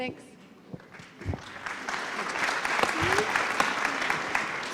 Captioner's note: applause